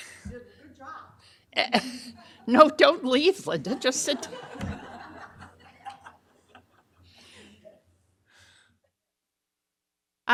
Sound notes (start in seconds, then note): 3.4 audience laughing